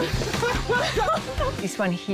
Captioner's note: laughs